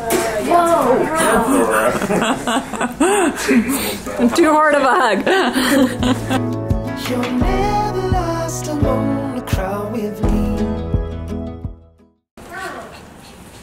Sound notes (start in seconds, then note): 1.0 they laugh